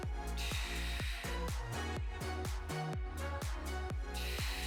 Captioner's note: breathes heavily